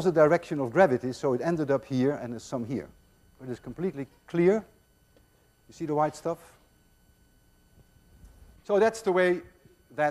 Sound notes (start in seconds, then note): none